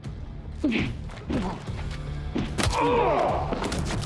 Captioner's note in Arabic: لكمة، آهات